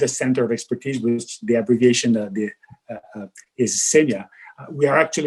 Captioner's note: murmurs